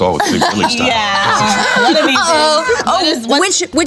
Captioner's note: laughing